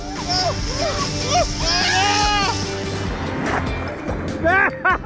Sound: both screaming

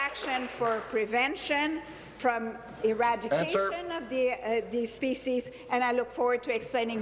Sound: applause

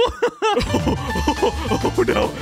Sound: laughing

